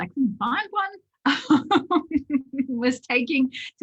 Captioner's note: laughs